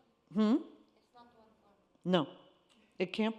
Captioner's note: faintly speaks